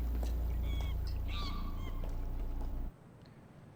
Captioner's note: monkey screeches